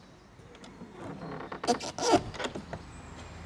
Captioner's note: creaking